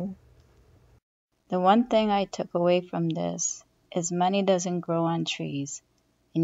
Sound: voice recording

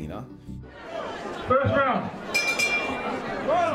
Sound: crowd talking; bell ringing

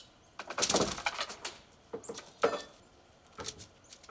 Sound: plank springs

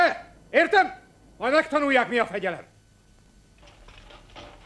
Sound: voice distorts and fades

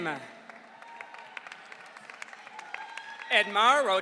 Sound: audience cheering

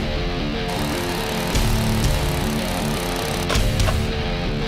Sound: intense rock music; drill running; plastic snaps

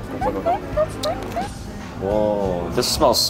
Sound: laughing

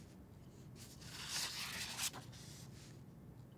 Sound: paper rustles

